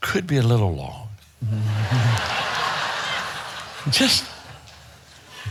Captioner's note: audience laughing